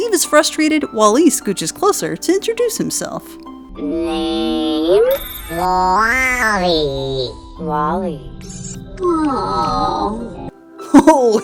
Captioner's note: happy sigh